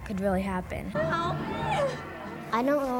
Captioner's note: crying